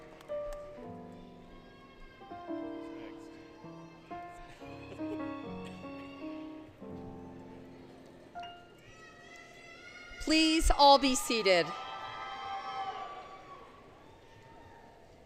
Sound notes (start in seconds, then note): 4.6 music, Laughter; 8.8 yelling; 10.9 cheering